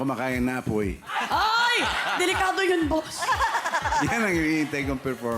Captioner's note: robi chuckles